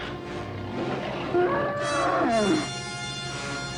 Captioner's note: Gitano bellows!